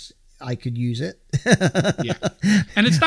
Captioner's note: laughing